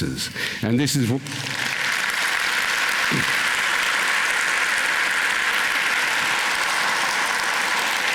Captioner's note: applause